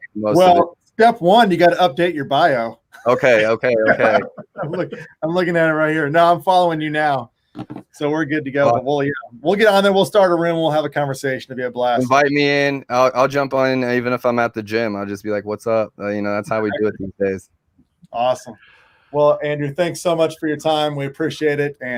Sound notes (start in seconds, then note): 2.9 laughing